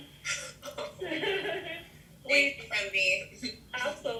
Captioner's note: laughter